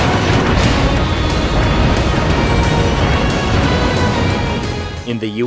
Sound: game audio

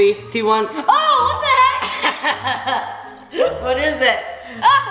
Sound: laughs

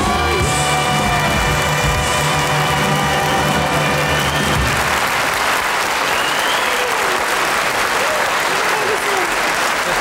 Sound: crowd cheers

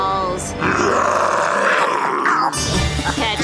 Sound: roaring

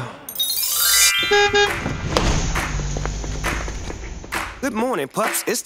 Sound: horn beeping

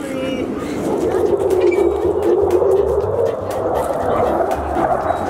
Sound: plane roars overhead

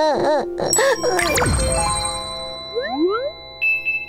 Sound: bell ringing

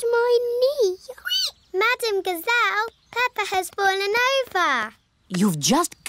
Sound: squeaks

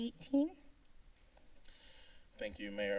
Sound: silence

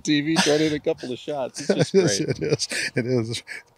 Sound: laughs

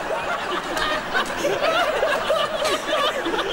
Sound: laughter

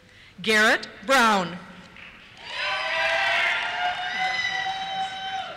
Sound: cheers

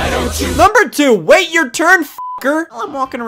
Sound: beep

